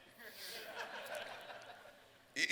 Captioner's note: laughter